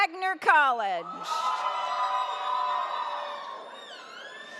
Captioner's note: audience cheers